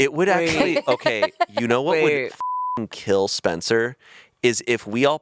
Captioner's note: beep